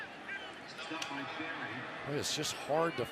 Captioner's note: pa announcement